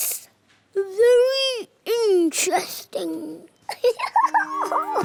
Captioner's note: giggles